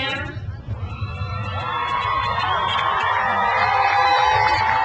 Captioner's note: crowd cheers